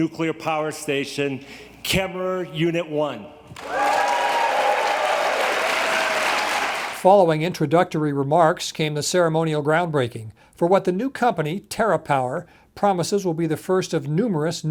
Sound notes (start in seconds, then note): 5.7 audience applauds